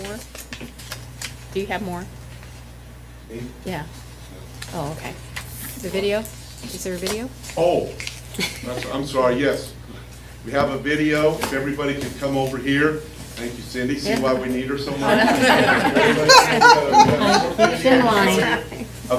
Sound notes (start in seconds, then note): 14.9 laughter